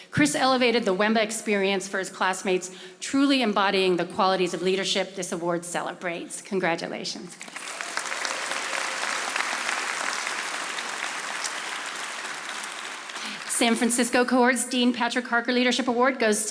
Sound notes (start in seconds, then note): 7.4 audience applauding